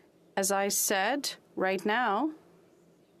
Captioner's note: speaking French